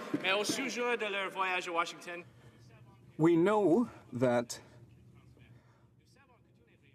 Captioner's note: some Applause